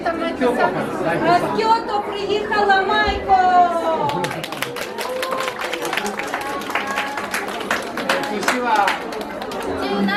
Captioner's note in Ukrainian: оплески